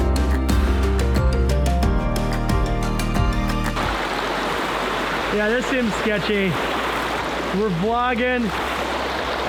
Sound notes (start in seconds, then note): 3.3 water rushing